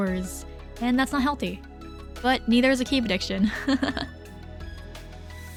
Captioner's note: laughing